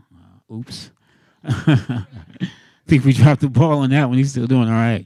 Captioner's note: laughs